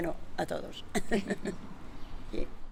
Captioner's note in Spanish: risas